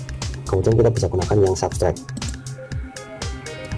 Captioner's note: click